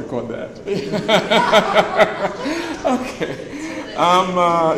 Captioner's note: laughs